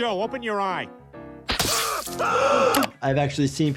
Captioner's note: Joe screaming; gasping